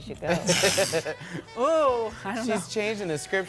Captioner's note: laughing